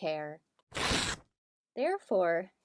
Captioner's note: ripping sound